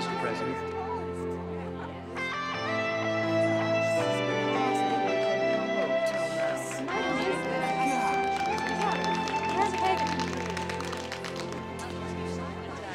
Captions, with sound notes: Mr. President. (sentimental music) (crowd murmuring) (light applause)